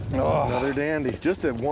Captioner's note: voiceover